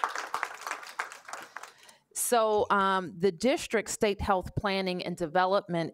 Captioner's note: applause